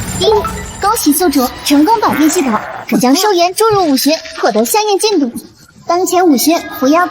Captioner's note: ding!